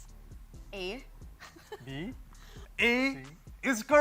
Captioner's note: chuckles